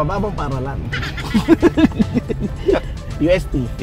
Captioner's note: laughs